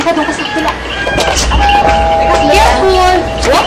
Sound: doorbell dings

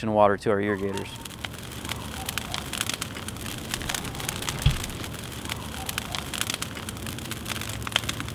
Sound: sounds of flickering fire

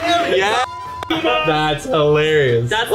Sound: beeps

